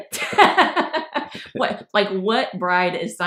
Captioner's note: laughing